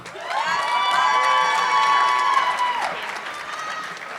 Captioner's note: audience clapping